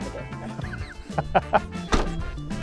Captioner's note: laughs